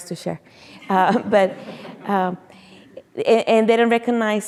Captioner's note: audience chuckling